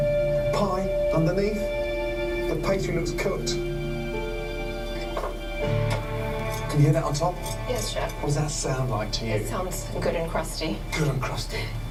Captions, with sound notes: Pie underneath, the pastry looks cooked. [Scraping] Can you hear that on top? >> Yes, Chef. >> What’s that sound like to you? >> It sounds good and crusty. >> Good and crusty.